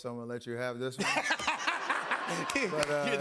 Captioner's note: laughter